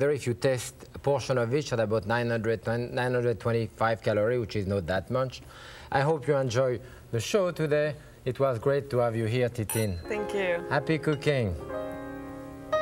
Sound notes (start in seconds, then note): 9.7 glass clinging; 11.8 upbeat music